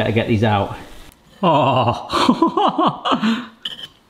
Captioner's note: chuckling